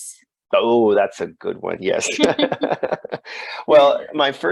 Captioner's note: laughs